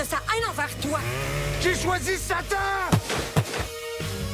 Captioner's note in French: tirs